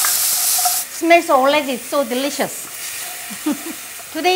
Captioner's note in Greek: γέλιο